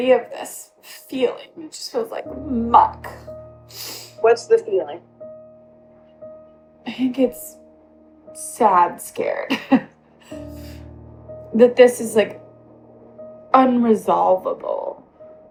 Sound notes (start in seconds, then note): 5.9 on Zoom call; 10.3 sniffling